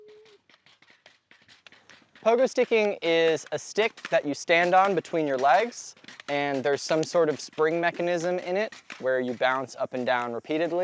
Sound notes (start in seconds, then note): 1.7 pogo springs clicking